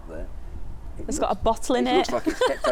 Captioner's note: laughs